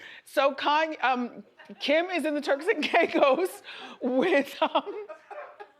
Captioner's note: laughs